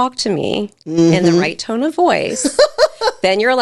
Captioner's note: laughing